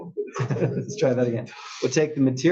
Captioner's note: laugh